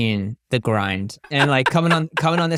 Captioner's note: laughing